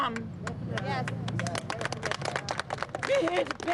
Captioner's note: clapping